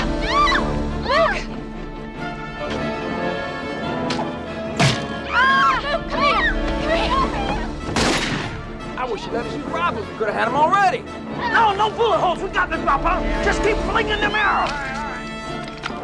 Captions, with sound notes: (Hanna shrieks) - Luke! (Luke screams) Luke, come here! (gunshot booms) - I wish you'd let us just rob 'em. We could've had 'em already! - No, no bullet holes! We've got this. Just keep slinging them arrows!